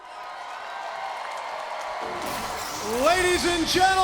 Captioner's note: crowd cheering